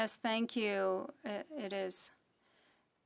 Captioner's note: speaking French